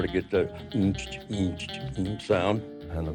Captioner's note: humming